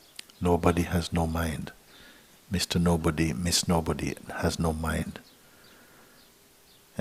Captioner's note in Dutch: none